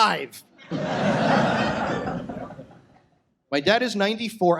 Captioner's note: audience laughs